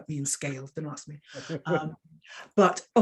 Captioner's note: woman chuckling